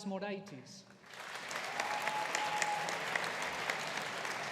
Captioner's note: audience applauding